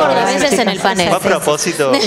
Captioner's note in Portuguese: Risos